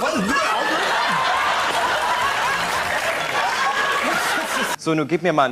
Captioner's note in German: Gelächter